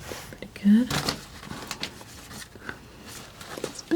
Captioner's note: scratching